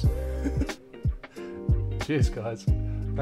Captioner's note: laughs